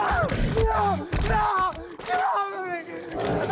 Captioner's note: screaming